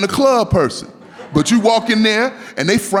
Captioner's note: laughing